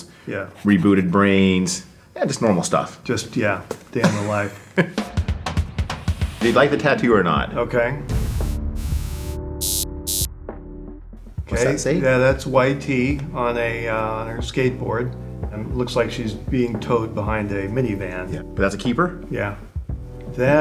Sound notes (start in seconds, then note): 9.6 laser buzzing